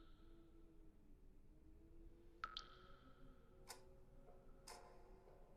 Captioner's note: dripping water